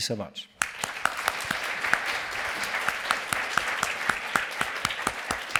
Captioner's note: applause